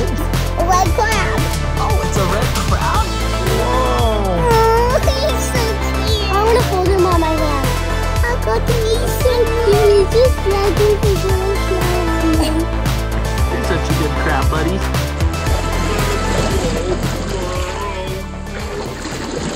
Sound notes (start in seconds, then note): 10.2 babbles at the crab; 16.3 funny vocalizations